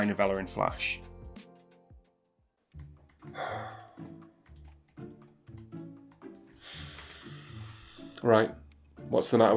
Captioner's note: obnoxious sigh